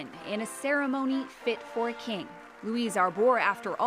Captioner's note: applause